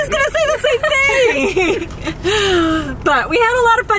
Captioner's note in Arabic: تضحكان